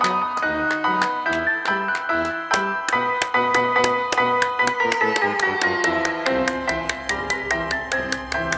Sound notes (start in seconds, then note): 0.0 Morty clapping; 0.0 creepy circus music